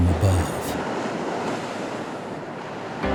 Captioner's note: waves crashing